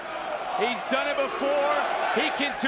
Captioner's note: crowd cheering